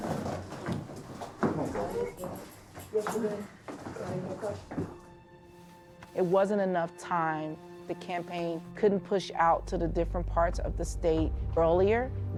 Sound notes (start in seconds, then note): 1.6 indistinct chatter